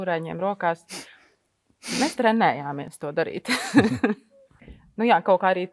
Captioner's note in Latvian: Smiekli